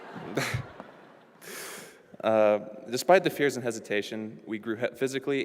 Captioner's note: applause